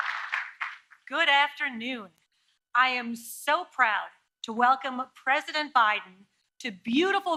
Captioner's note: applause